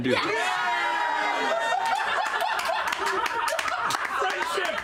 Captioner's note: cheering and laughter